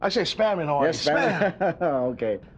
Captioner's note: Martin laughs